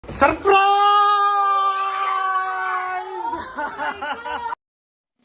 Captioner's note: cheers